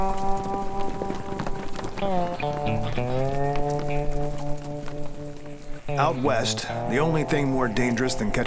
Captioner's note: hoofbeats